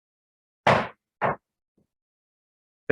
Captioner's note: gavel bangs